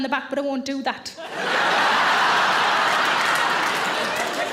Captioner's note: audience laughing